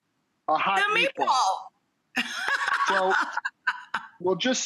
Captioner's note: laughs